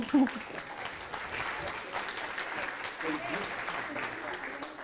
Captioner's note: audience applauding